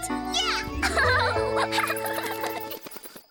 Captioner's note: giggles